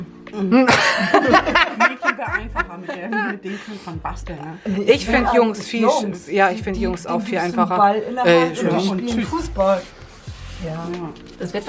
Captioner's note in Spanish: risas